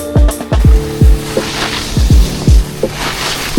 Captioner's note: skis scrape